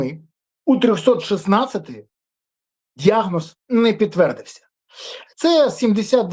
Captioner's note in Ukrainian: сопіння